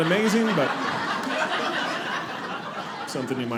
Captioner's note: audience laughing